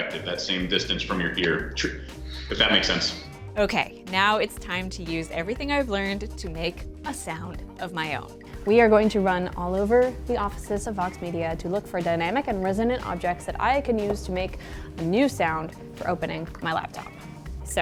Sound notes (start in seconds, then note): none